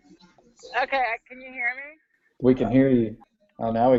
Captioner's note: voiceover